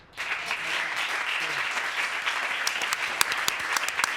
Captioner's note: applause